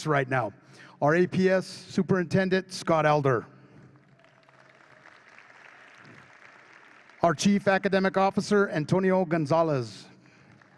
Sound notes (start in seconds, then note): 3.9 audience claps; 10.2 audience claps